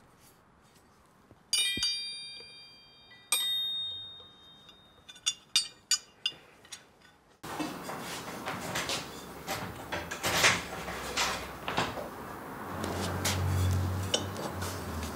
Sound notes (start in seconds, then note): 1.4 jingling rattle